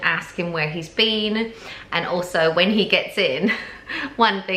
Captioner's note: laughing